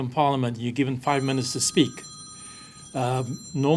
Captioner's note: phone ringing